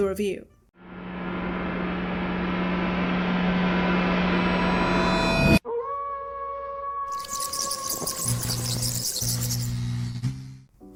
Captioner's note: spooky noises